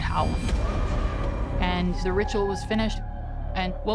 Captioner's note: howling